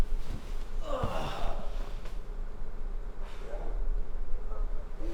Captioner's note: Isaac sighs